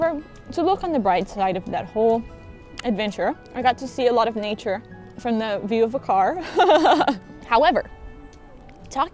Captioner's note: laughs